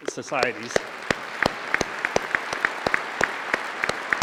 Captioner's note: applause